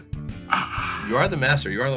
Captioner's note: sighs